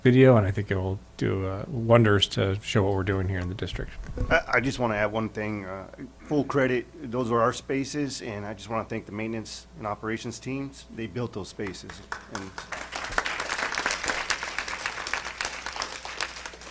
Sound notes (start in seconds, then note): 11.6 applause